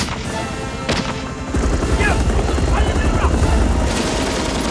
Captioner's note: Korean